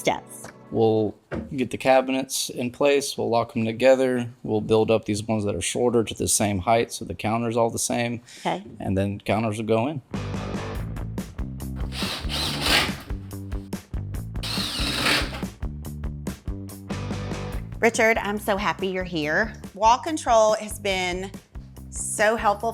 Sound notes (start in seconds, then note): 9.9 drill whirring; 9.9 upbeat music